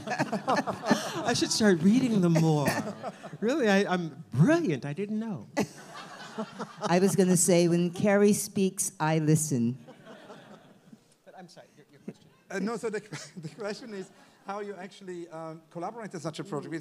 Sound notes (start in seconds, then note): 0.0 all laugh; 5.6 all laugh; 13.0 laughs